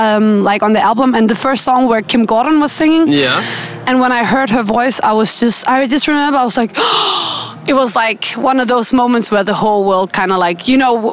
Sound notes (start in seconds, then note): 6.8 gasp